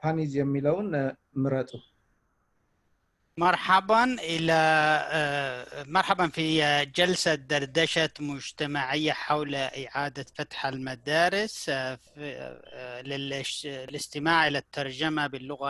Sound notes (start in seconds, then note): 3.7 speaking in foreign language